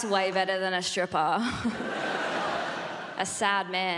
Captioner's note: giggles